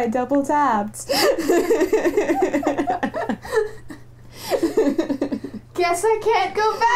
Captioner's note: laughter